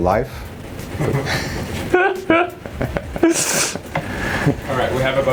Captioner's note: laughing